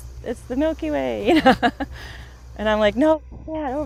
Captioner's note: laughs